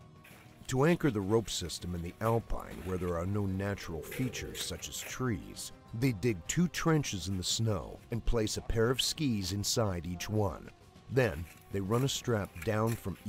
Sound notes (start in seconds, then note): 0.7 voiceover